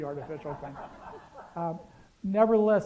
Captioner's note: laughter